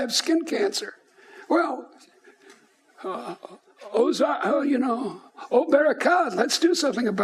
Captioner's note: speaking in foreign language